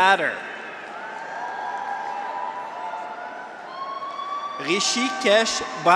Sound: graduates cheer; audience applauds

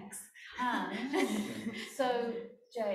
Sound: laughing

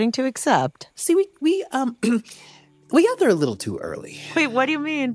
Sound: coughing awkwardly

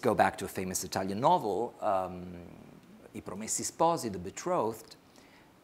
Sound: speaks foreign language

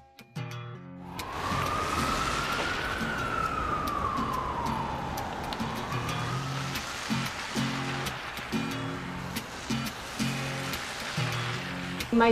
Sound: acoustic guitar music; street sounds

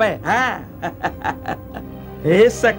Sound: laughs

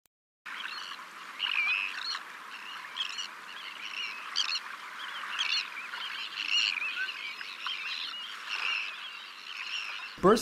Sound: birdsong

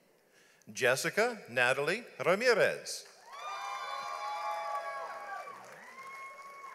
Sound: audience applauds

